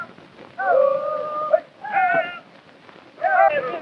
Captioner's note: men shouting